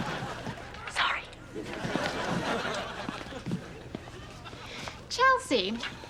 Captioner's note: whispers